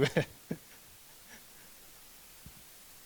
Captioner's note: laughs